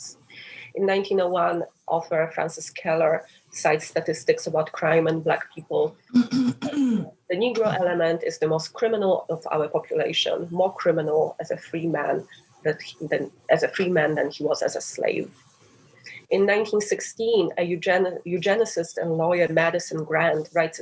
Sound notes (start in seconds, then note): 6.1 clears throat